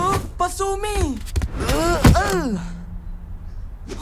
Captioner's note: desperate grunt; relieved sigh